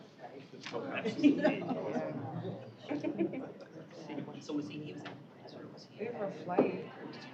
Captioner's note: overlapped chatter